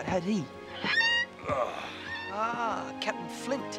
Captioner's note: Captain Flint squawking